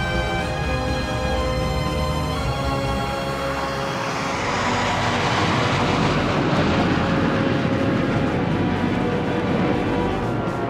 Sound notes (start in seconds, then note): 3.4 aircraft whirring